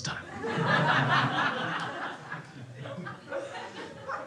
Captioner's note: crowd laughs